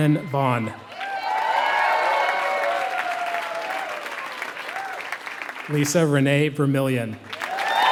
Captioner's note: applause